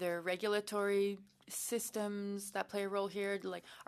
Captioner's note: speaking French